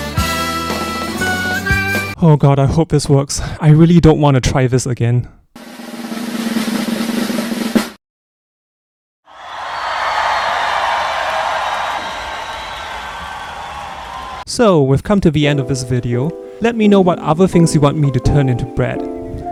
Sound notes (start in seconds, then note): 9.3 much rejoicing